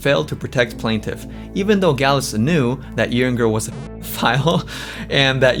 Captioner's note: laughs